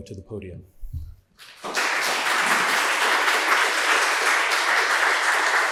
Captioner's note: audience applauding